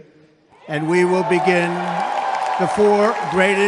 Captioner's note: crowd cheers